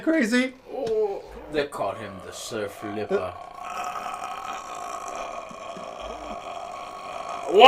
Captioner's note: still gasping in shock!